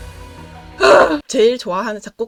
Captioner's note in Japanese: 咆哮